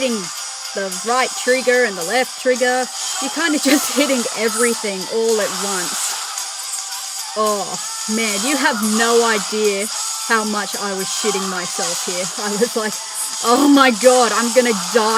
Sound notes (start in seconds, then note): 3.9 laughter